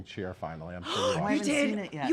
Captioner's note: gasps